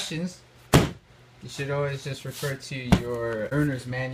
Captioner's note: loud thud